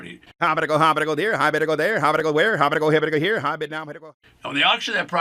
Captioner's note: auctioneer speaking rapidly